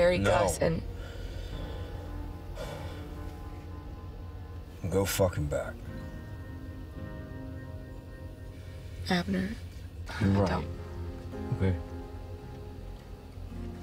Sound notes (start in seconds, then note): 2.5 sighs